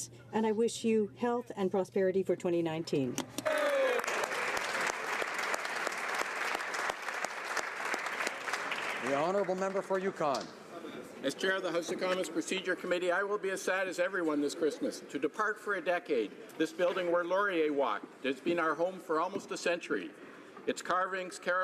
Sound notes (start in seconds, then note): 11.0 applause